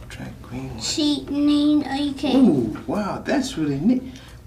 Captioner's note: rambles